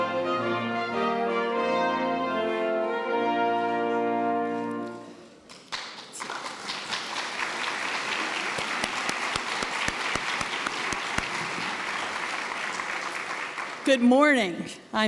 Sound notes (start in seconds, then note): 5.4 applause